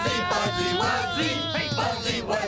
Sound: singing; shouts

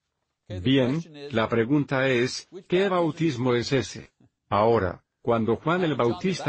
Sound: laughs

